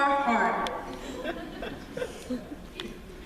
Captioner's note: laughter